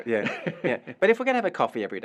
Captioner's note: laugh